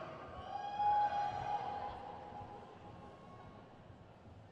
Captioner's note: crowd cheers